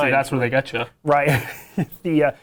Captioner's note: laughs